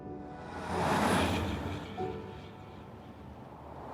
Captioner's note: truck whooshing